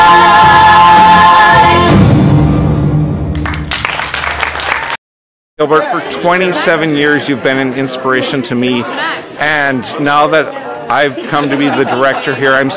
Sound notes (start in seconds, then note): 1.5 drum beat; 3.3 applause